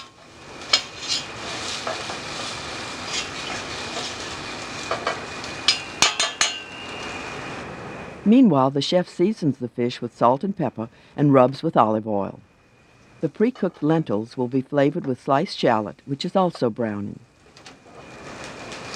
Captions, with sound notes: (pot sizzling) Meanwhile, the chef seasons the fish with salt and pepper, and rubs with olive oil. The precooked lentils will be flavored with sliced shallot, which is also browning.